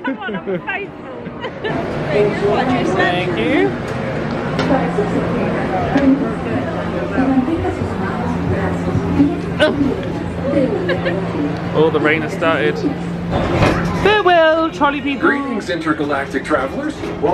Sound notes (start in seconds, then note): 0.0 laughs; 4.6 lively background chatter